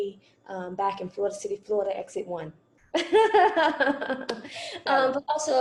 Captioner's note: laughter